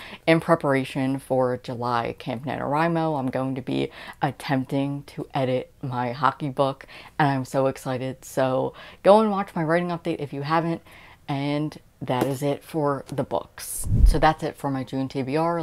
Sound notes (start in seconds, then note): 13.8 woosh